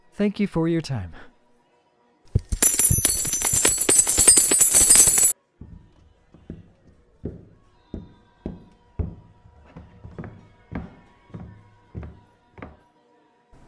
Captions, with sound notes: Thank you for your time. [Coins clatter on table] [Footsteps]